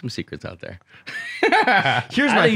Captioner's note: laughter